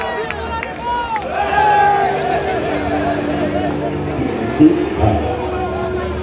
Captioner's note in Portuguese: gritos de comemoração